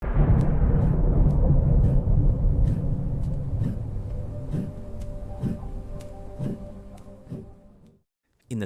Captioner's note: thunder